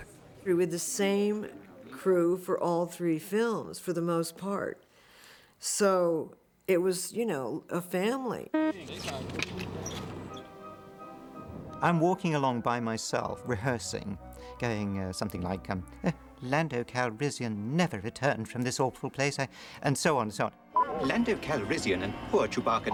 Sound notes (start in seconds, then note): 8.5 crew Chattering